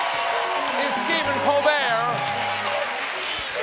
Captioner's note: cheers and applause